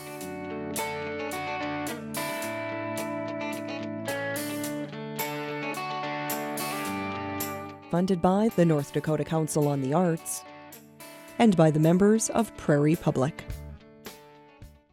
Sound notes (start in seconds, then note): 0.2 slow instrumental music; 7.6 voiceover